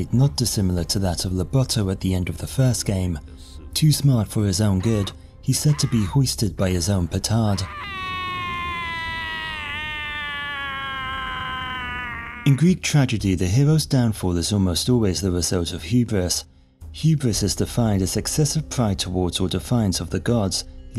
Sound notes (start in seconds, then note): 7.4 screams